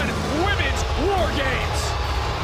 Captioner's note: crowd cheers